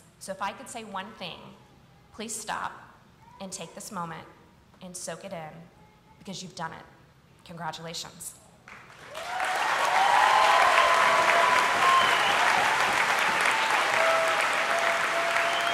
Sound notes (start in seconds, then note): 8.7 audience applauding and cheering